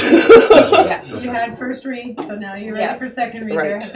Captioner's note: laughing